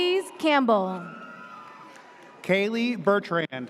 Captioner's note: audience cheers